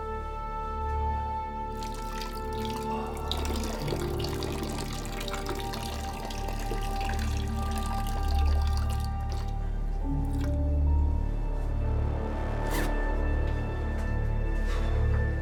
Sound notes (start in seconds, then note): 1.8 urinating; 4.7 tense orchestral music